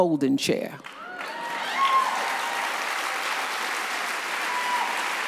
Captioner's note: audience applauds